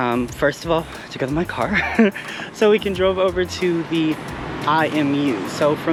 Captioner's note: laugh